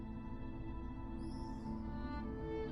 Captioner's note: none